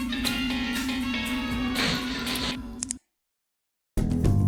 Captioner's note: distant screaming and static